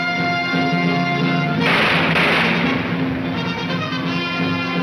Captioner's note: gunshots banging